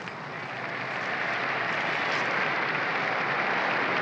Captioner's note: crowd cheering